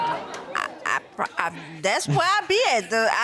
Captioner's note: audience exclaiming; stuttering